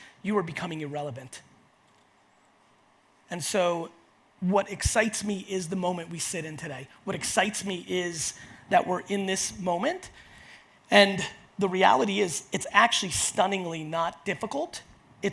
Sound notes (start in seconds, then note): none